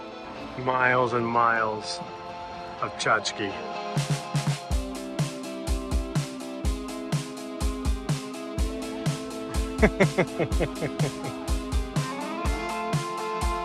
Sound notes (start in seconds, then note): 4.4 cheerful music; 9.5 laughing